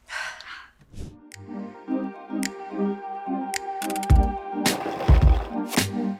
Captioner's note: sighing; rhythmic music; screen whooshing; bottles rattling